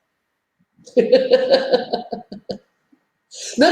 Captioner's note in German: lacht